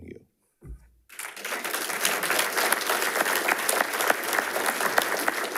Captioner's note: attendees applauding